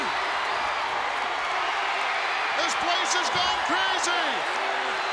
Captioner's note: applause